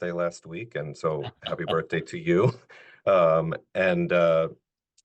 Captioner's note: laughing